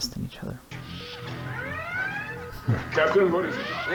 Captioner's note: door whoosh, siren